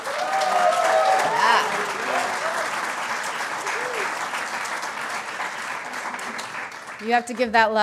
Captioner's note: applause